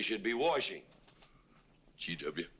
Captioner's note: none